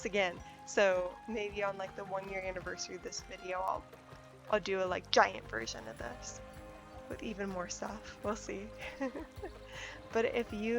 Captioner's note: giggles